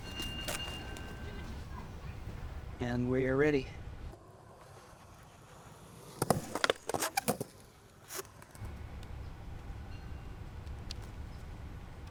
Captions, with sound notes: (bell ringing) And we're ready. (skateboard grinding)